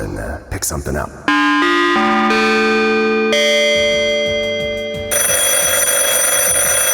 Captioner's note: ringing